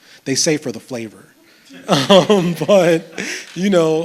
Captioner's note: laughs